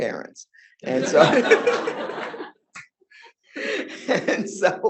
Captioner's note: audience laughing